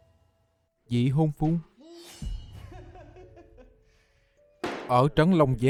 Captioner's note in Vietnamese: tiếng cười